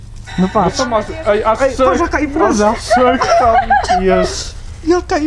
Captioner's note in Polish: śmiech